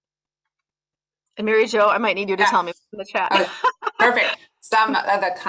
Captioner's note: laughs